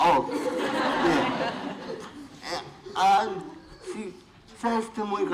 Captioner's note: laughter